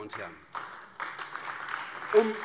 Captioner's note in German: Beifall AfD